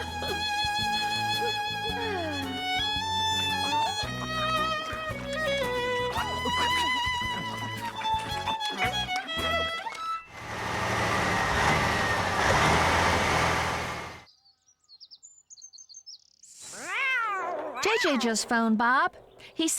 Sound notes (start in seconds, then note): 0.2 violin Music; 5.9 chewing Noises; 10.2 engine Running